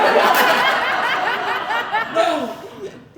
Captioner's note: audience Laughing